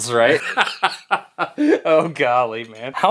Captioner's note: laughs